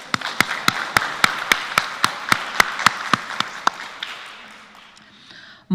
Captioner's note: applause